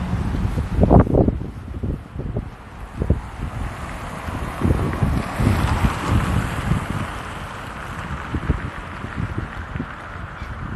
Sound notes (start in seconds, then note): 3.7 car noises